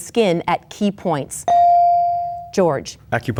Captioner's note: bell dings